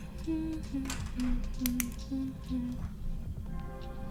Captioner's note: humming